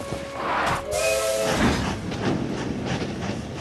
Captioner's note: train whistle